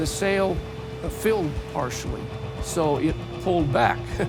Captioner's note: chuckles